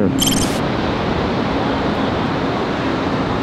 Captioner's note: waves crashing